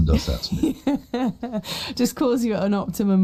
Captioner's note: laughs